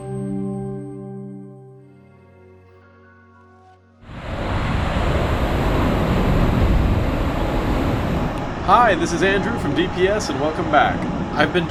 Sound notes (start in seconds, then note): 4.1 waterfall crashing